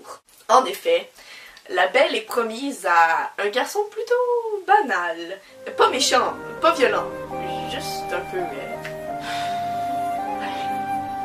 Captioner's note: sighs